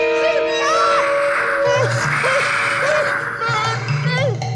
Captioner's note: mole screams; growling